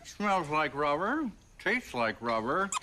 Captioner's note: the toy squeaks